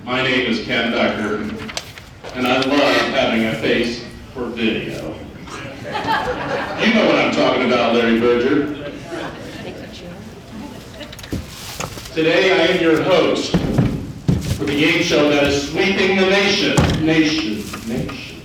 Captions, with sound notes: My name is Ken Decker and I love having a face for video. (audience laughing) You know what I'm talking about Larry Berger. Today I am your host for the game show that is sweeping the nation.